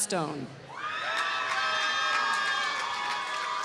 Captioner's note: applause